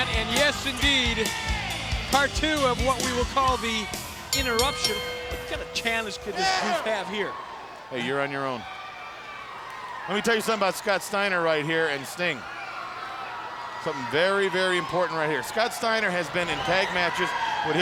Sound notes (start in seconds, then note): 4.1 bell rings